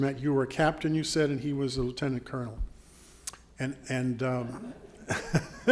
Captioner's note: laughing